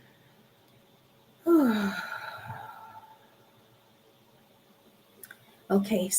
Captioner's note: sigh